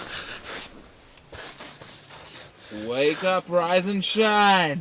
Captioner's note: Jake gasps sharply; birds and insects continue chirping